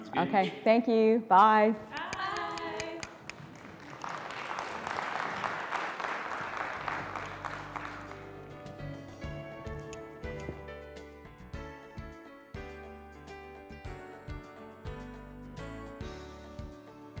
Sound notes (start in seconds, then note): 2.0 applause